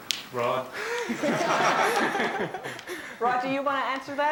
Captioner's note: laughter